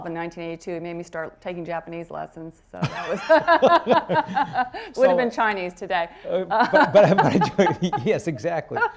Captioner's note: laughter